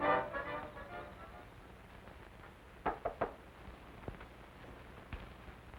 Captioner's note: knocking on door